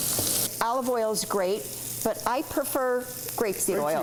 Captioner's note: sizzling